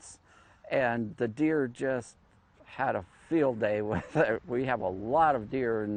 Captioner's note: chuckles